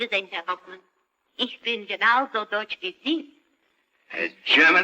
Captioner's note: speaks German